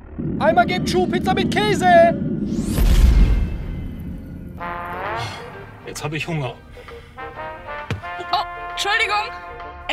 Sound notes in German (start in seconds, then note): 4.6 Sorglose Musik; 5.1 seufzt